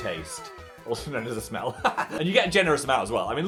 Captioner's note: laughs